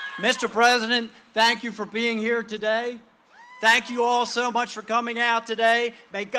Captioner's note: cheering and applause; cheering and applause